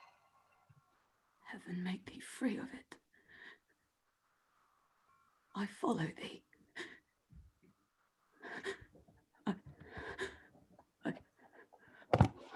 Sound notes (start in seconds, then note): none